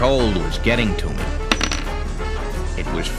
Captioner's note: clinking